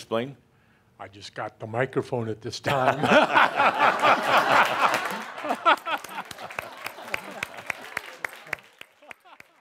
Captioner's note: lots of laughter and some applause